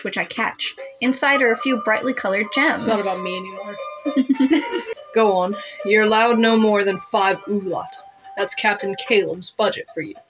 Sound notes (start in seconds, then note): 4.0 chuckle; 4.0 giggle